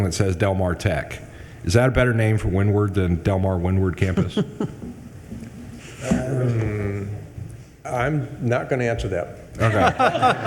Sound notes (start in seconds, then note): 4.1 chair chuckling